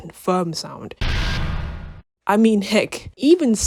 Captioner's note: industrial noise